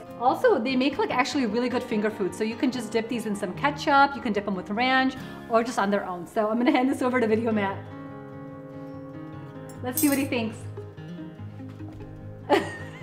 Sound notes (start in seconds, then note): 7.7 gentle music; 12.5 laughs